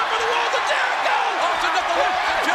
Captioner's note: audience cheers